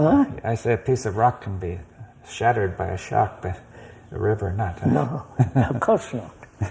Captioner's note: laughs